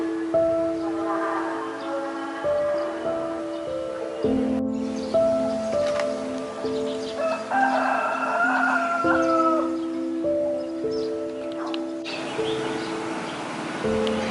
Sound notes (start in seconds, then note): 4.7 sound of roosters crowing and birds singing